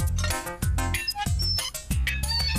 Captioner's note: clunk!; squeaking